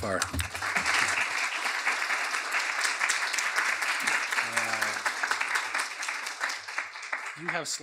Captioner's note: applause